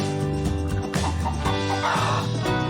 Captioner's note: chicken clucks